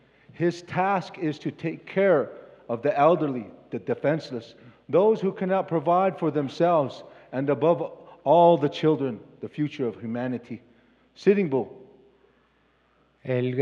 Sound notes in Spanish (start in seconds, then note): 1.2 Expositor habla en inglés